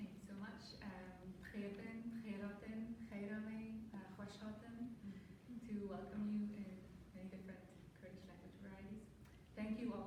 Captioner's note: non-english